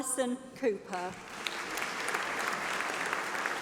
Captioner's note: applause